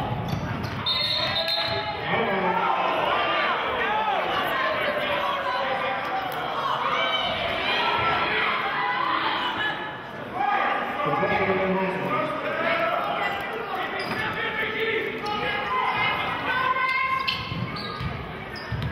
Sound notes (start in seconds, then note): 0.8 whistling; 4.7 yelling; 16.6 yelling